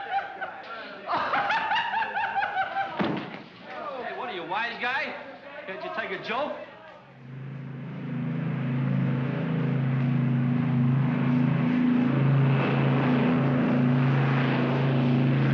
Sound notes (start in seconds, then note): 0.0 laughs; 1.0 laughs obnoxiously; 3.0 thunk; 7.0 aircraft rumbles